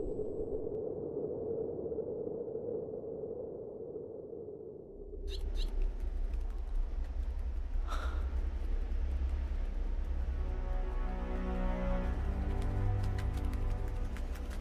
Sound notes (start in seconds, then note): 0.5 wind blowing; 5.2 bird chirps